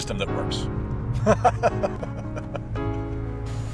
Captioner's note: laughs maliciously